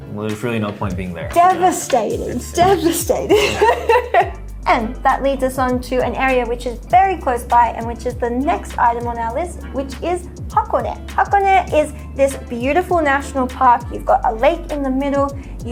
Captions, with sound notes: well, there's really no point being there. - Devastating, devastating, (laughs) and that leads us on to an area which is very close by and which is the next item on our list, which is Hakone. Hakone is this beautiful national park. You've got a lake in the middle.